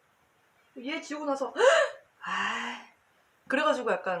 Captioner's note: gasp! Sigh